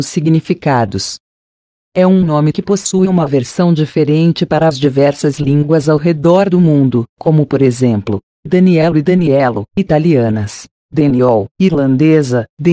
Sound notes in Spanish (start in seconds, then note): 5.9 irlandés; 8.8 portugués